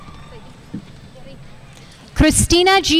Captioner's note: speaking faintly off mic